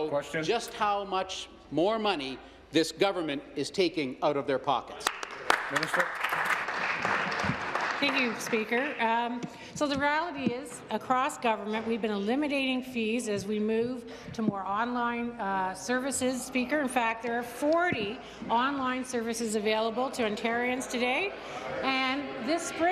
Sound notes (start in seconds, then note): 8.0 applause